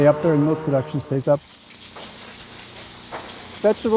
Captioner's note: water splashing